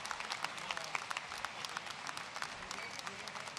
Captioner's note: applause